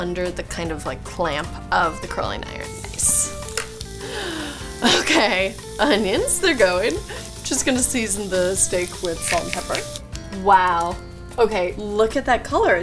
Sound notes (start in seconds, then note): 4.0 sighs